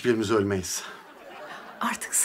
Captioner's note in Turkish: Gülme efekti